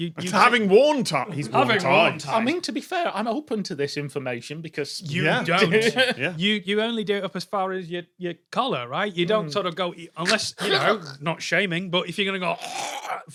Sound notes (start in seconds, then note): 10.2 choke; 12.9 choke